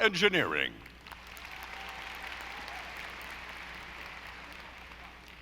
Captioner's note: audience applauding